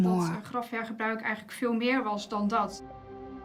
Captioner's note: speaks Dutch